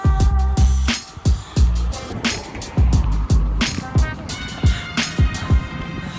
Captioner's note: background noise of cars passing by cuts through music